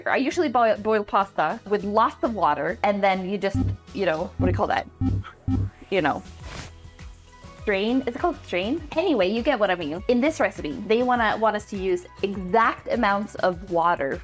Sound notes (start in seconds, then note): 5.0 beeping